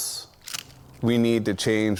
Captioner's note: wood breaking